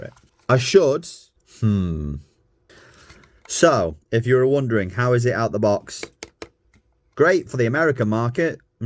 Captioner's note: taptaptap